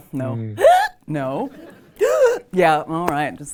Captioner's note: gasps